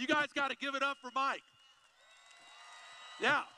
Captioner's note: applause